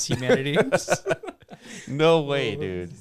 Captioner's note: laughing